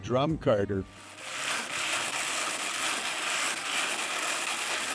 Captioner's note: carder rustling